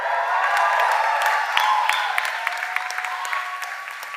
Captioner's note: cheers and applause